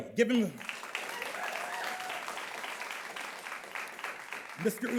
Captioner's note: audience claps